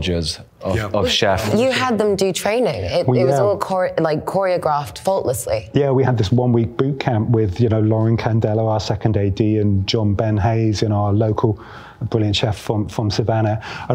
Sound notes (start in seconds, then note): none